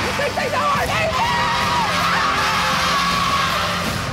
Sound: shouting

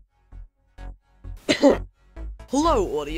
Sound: cough

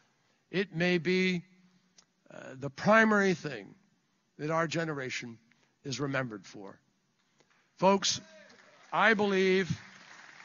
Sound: applause

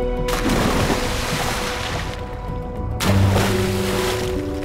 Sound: water splash

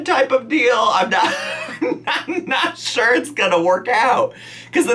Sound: laughs

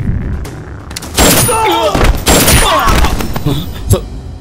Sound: gunshot

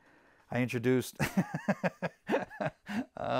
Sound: laughs

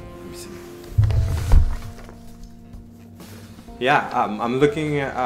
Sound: whispers

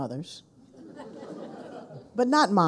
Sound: people laughing

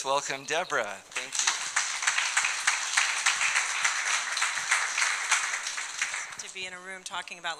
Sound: audience clapping

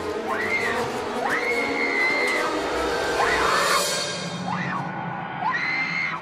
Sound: suspenseful music; Lindsay screaming

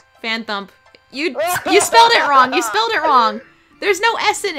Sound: sobs

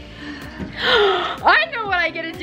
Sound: inhales sharply

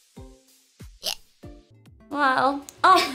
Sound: hic

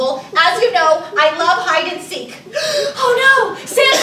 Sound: gasps

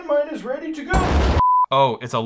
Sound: explosion booming; 1000 Hz sine wave tone

